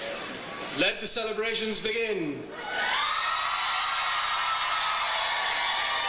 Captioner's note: audience cheers